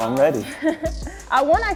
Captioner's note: laughs